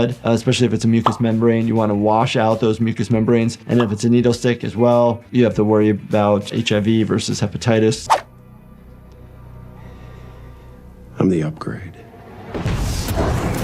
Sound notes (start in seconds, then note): none